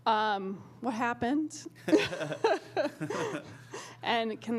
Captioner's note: laughter